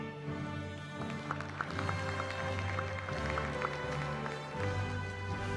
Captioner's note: applause